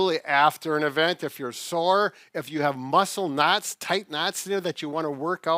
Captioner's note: none